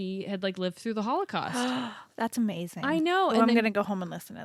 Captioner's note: gasps